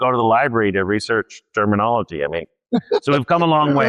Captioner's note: laughs